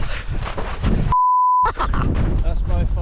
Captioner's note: laughs